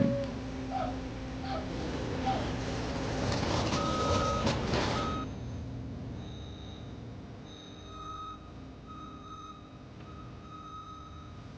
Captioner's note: construction noise